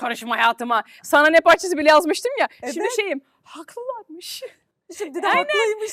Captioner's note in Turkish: kahkaha